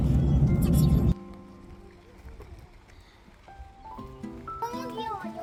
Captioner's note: excited steps